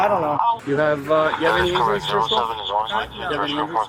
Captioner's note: radio chatter